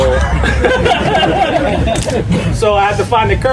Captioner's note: members of the audience laughing